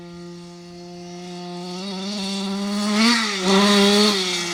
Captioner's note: engine roaring